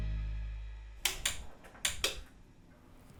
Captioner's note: click, click: light switches